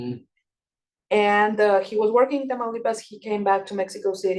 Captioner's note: speaking Spanish